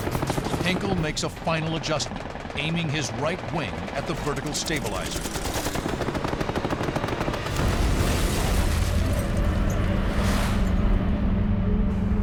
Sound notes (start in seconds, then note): 4.9 gunfire; 7.3 metal tearing